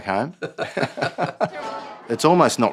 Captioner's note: both laugh; laughs